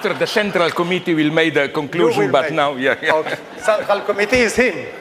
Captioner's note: laughter